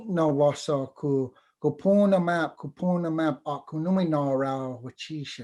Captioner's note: foreign Language